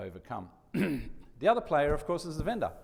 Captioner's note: coughs